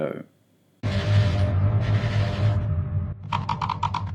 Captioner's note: creepy ambience; mechanical typewriter typing away